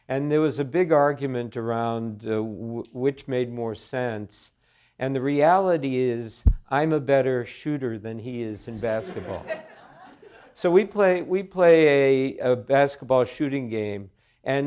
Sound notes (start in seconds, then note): 8.9 audience chuckling